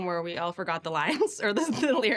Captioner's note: laughs